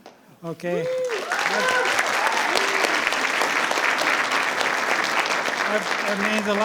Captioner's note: attendees applauding; attendees cheering